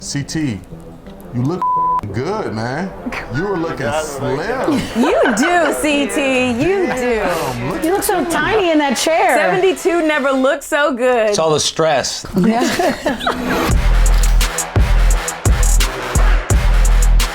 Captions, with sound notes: - CT you look (beep) good, man. You're looking slim. - You do CT, you do. - Damn look at you. - You look so tiny in that chair. - 72 never looked so good. - It's all the stress. (laughter) (upbeat music)